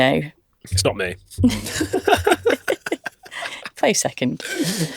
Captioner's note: laughs